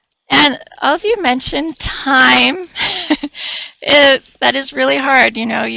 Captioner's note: chuckles